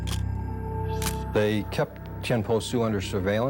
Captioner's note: camera shutter click